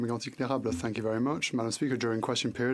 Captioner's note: speaking in French